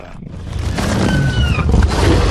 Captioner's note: screeches